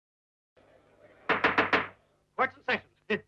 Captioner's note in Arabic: ضربات المطرقة